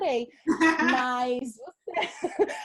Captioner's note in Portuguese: risos